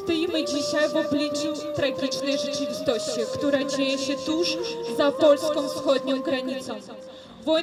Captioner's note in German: traurige Musik; Lautsprecher-Ansage auf Polnisch